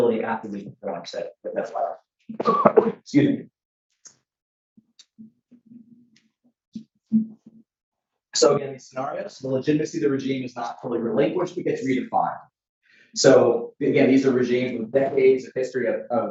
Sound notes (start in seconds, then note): 2.4 coughs